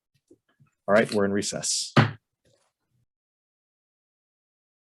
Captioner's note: gavel bangs